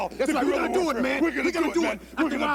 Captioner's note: none